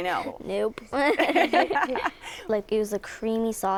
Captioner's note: laughter